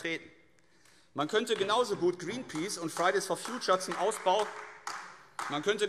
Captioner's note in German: Beifall AfD